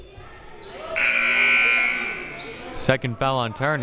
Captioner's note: buzzer